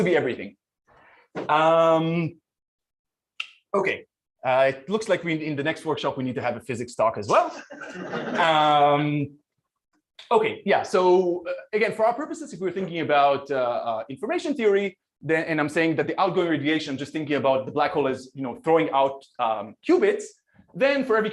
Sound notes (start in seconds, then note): 7.4 laughter